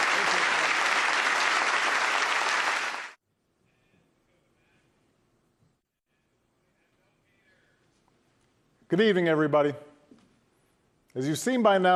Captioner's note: applause